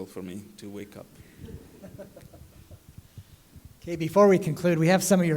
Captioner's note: laughter